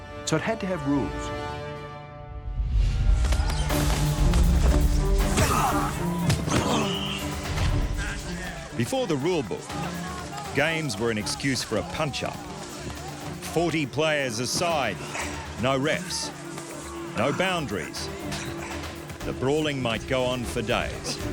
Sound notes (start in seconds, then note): 3.1 action music; 3.1 men shouting; 6.6 whistle blows